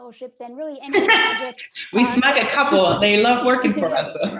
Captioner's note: laughs